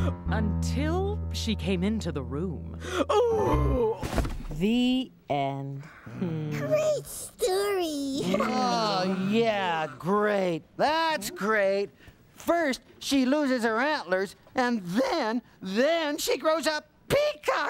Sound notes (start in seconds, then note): 2.4 mother sighs, falls to floor; 7.7 sarcastically